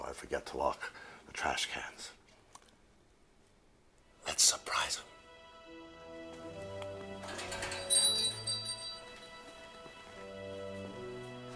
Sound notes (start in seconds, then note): 5.1 suspenseful music; 7.2 bells jingle